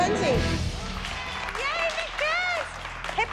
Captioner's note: cheers